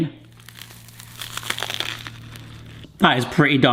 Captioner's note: burger crunching